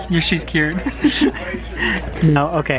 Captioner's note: laughs